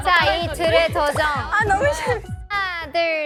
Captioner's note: crying in laughter